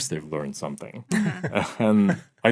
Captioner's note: laughing